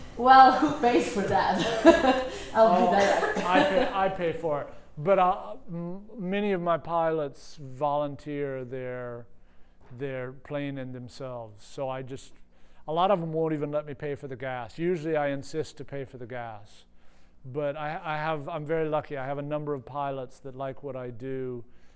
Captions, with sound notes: >> 'Cause I'm crazy. >> Well, thanks for that [laughs]. >> I paid for it. But many of my pilots volunteer their plane and themselves. So I just-- a lot of them would not even let me pay for the gas. Usually, I insist to pay for the gas. But I have-- I'm very lucky I have a number of pilots that like what I do